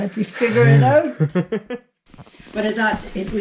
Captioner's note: laughs